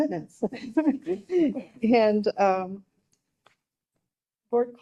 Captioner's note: group laughing